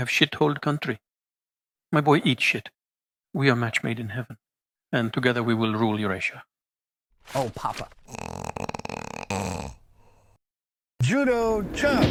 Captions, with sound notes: Oh, papa! [SEAGAL'S SNORING SUBSIDES AS HE AWAKENS] JUDO CHOP!!!